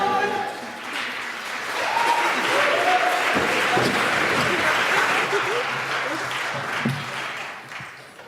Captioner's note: applause